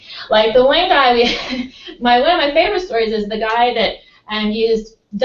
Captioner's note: laugh